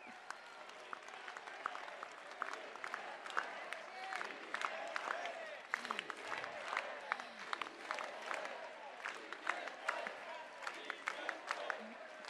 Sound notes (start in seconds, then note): 0.3 applause; 5.6 shouts of celebration